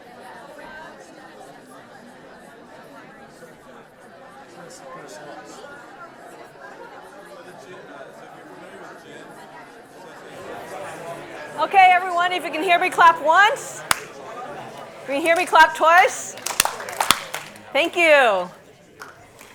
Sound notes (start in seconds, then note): 13.7 claps; 16.2 group claps